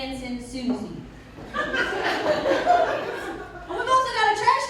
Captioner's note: laughter